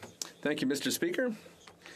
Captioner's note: speaking FRENCH